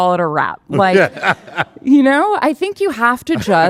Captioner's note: laughing